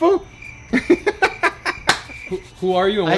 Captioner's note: crickets